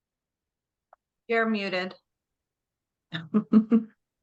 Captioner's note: laughs